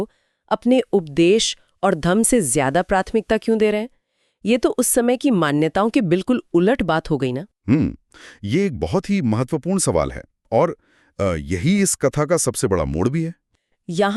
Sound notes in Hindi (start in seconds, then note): 7.6 नाक से की जाने वाली आवाज़